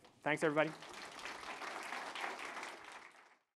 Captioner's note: applause